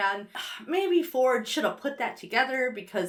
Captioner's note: sighs